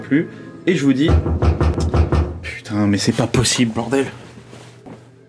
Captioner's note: toctoctoc